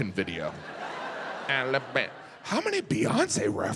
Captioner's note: audience laughs